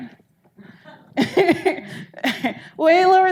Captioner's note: audience laughing